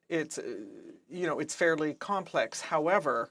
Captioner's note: speaking French